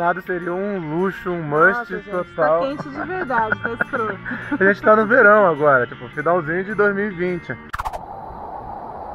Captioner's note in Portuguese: risadas